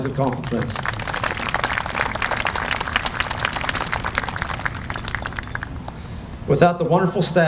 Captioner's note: applause